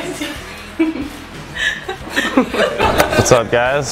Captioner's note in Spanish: Risas